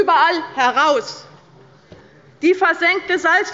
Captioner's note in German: Anhaltende Unruhe